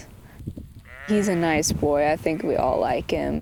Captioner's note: sheep bleating